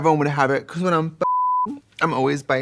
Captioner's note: beeping